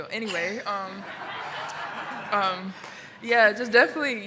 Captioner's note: audience laughing